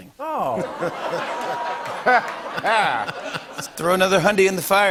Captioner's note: laughter